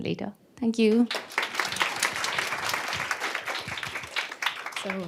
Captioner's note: applause